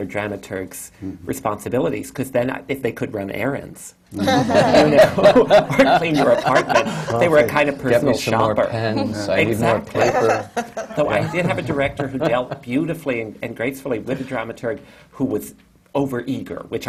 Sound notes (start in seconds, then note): 4.2 laughter